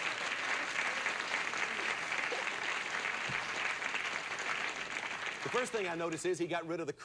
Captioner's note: audience applauding